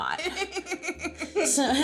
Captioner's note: laughing